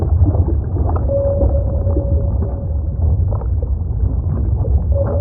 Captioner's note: sonar beeping